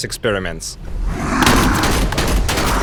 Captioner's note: monster roars